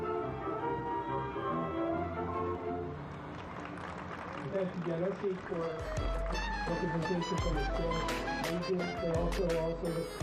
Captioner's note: cheers and applause